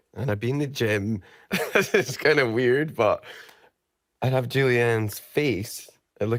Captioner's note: laughing